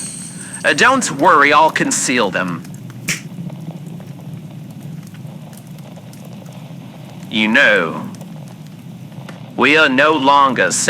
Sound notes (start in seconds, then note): 3.0 snap fx